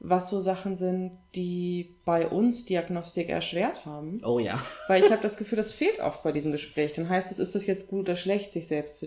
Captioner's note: laughs